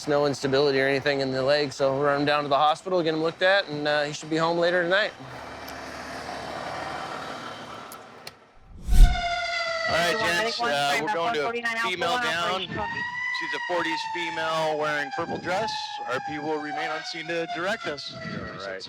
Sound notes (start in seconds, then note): 8.7 sirens